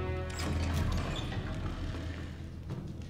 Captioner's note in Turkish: Kapı açılma sesi